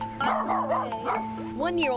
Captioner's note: dog barking